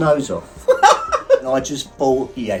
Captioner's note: laughing